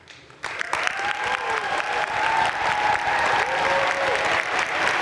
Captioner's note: crowd cheering and applauding